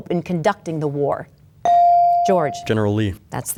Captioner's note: bell dings